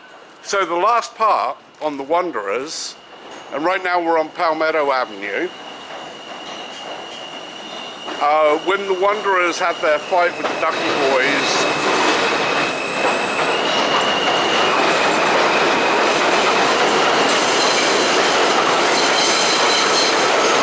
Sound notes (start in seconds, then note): 12.3 train passing overhead